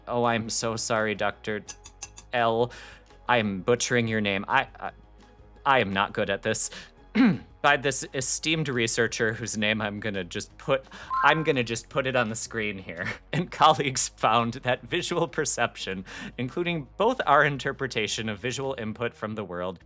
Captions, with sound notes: OH I'M SO SORRY DOCTOR L I AM BUTCHERING YOUR NAME I I I AM NOT GOOD AT THIS [clears throat] BY THIS ESTEEMED RESEARCHER WHOSE NAME I'M GONNA JUST PUT I'M GONNA JUST PUT IT ON THE SCREEN HERE AND COLLEAGUES FOUND THAT VISUAL PERCEPTION INCLUDING BOTH OUR INTERPRETATION OF VISUAL INPUT FROM THE WORLD